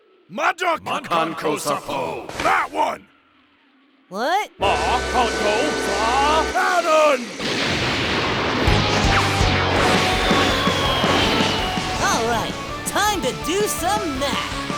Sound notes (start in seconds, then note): 7.2 explosive re-entry